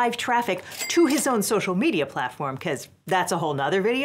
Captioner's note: bell dings